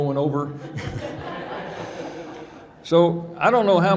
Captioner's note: audience laughing